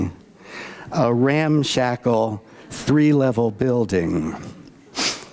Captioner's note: none